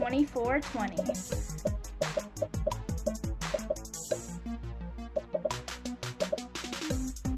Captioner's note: upbeat music; popping